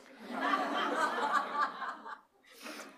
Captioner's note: laughter